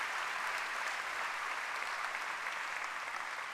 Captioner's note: applause